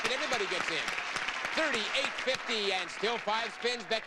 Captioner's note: audience applauding